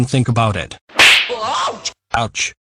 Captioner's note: slap